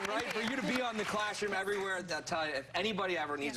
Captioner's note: applause